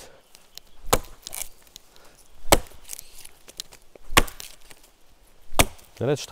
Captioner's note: chopping wood